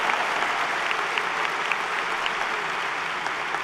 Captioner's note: applause